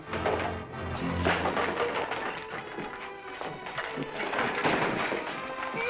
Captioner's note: furniture clattering